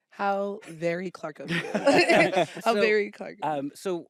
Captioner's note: laughter